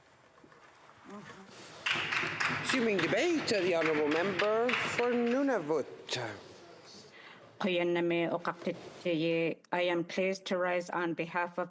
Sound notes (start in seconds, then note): 5.7 some Applause